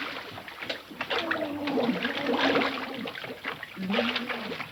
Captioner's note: Mr. Andrews gurgling